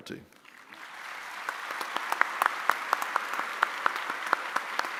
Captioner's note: audience applauding